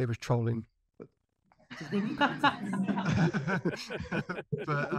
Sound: all laughing

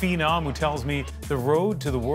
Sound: cheers and Applause

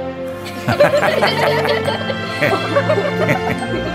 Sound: laughter; bright music

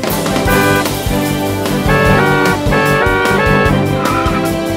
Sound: car honking; cars honking

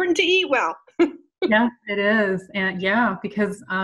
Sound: laughs

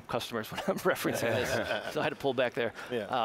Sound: all laughing

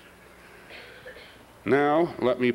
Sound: cough

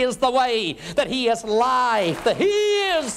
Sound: applause

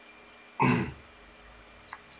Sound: grunt

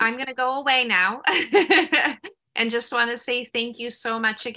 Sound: laughter

